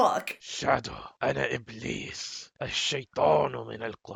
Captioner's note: Iblis speaking Arabic